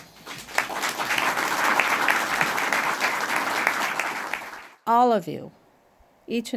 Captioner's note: applause